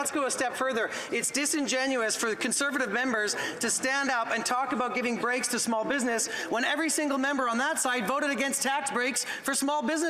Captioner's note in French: voix de l'interprète